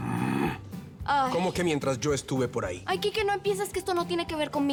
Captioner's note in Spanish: Gruñidos